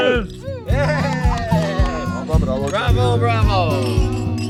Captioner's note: people cheering